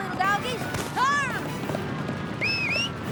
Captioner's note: whistles